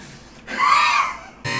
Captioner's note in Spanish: exhalación